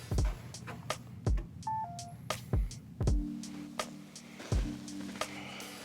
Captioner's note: locking mechanism chimes